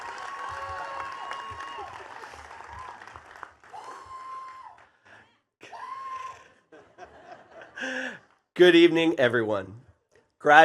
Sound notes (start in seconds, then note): 3.9 sighs; 6.7 chuckles